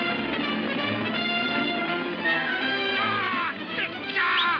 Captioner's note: man whooping, whistling